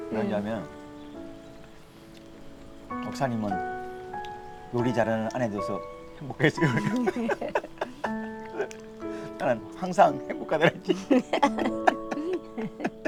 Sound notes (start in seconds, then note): 6.3 both laughing; 10.1 both laughing